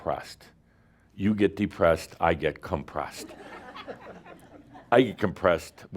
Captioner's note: laughter